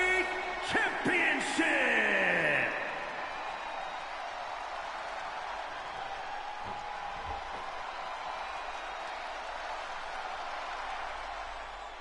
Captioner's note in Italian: Applauso